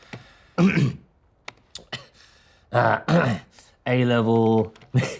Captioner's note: Danny clears throat